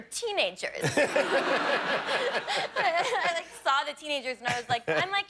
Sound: laughter

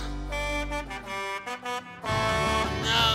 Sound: honking

